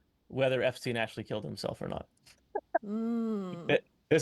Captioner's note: chuckling